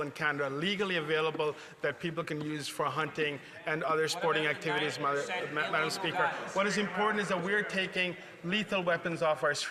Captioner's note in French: voix de l'interprète